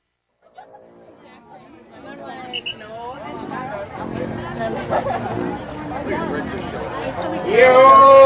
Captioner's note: indistinct chatter